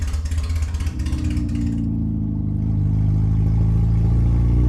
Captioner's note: engine purrs